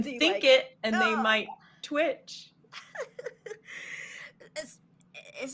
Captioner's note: groaning